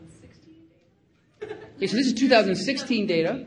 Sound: giggling loudly

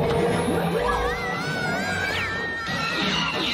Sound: screaming terrified

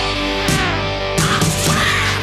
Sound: fly buzzes

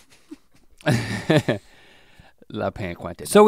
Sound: chuckles

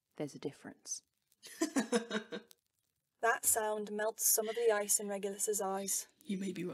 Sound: James laughs

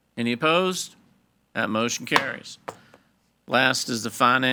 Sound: gavel thuds

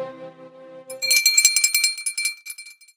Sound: bell tolling

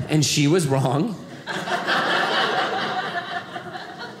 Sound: audience laughing

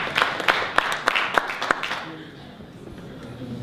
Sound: applause ends

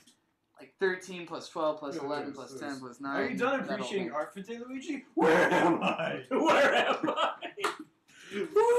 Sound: claps

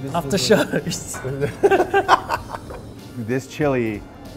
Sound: laughs

